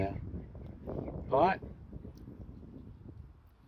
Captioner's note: extreme wind noise